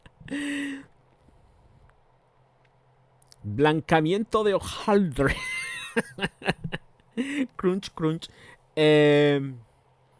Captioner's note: laughs